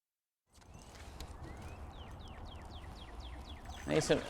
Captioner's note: birds tweeting